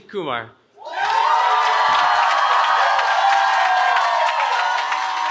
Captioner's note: cheering